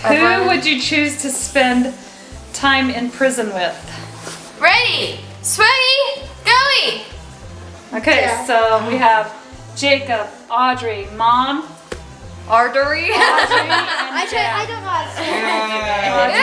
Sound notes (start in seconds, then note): 13.0 laughs